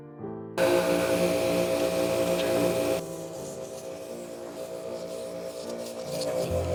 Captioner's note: air compressor whirring